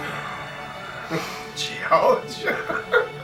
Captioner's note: laughing